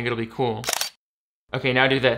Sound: camera shutters

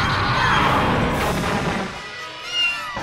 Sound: explosion; meow

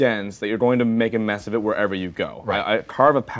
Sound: none

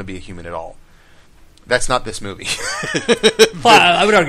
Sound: laughs

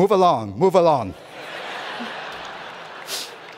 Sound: laughter

